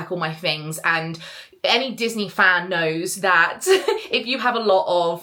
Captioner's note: giggles